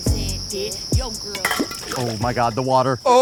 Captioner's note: crickets chirping; bottle clatters